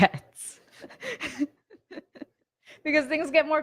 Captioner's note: laughing